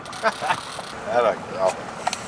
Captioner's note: laughter